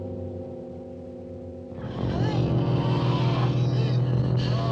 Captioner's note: growling, groaning